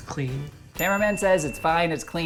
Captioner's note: bell ringing